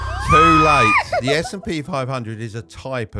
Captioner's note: laughing